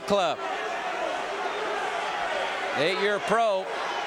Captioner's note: audience cheering